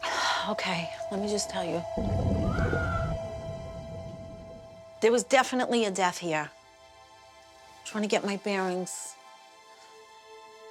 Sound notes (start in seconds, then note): 2.1 echoing scream